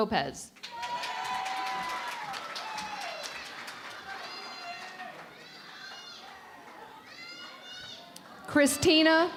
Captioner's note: cheering and Applause